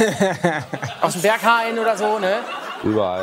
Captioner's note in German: Gelächter